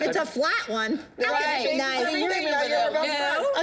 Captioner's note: overlapping chatter